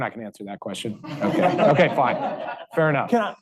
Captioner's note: audience laughing